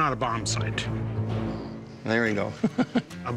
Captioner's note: chuckles